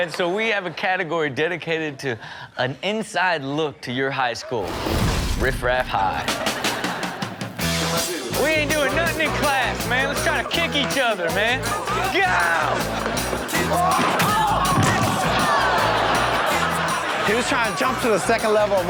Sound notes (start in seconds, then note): 6.7 upbeat music; 13.0 roaring; 14.0 audience laughing